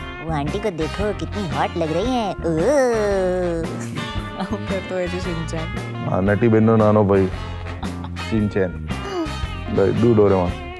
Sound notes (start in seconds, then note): 1.6 Mimicking Shinchan; 7.5 laughs